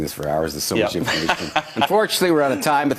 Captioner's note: laughs